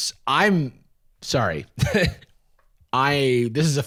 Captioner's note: laughs